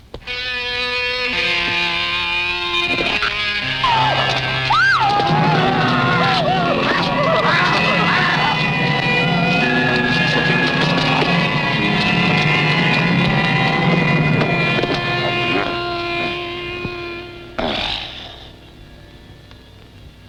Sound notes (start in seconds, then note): 0.3 foreboding music; 3.3 screaming; 7.2 growling; 11.6 menacing music; 17.6 grunting